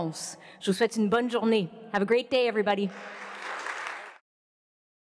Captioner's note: applause